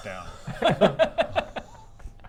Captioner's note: indecent laughter